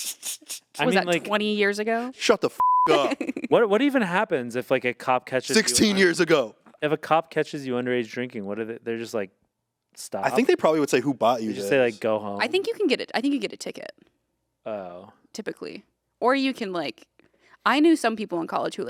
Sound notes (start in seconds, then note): 2.6 beep